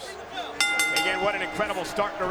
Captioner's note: bell rings